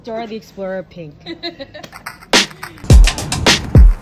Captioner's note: laughing